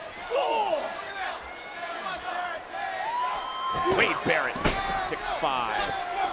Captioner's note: crowd cheering